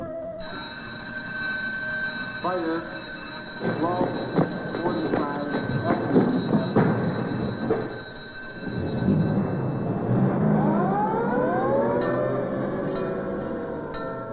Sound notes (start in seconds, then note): 0.2 fire bell ringing; 2.1 footsteps; 9.0 trucks revving; 10.7 siren wailing